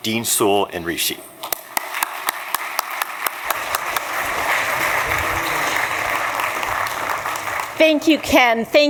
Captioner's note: applause